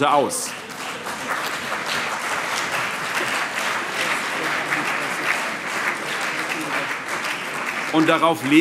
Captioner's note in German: Allgemeiner Beifall